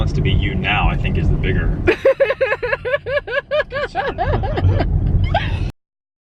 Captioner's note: laughing